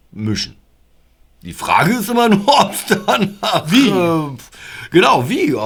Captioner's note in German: lachen